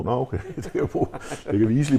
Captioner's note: giggling